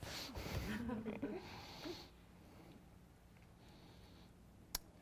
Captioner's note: audience chuckles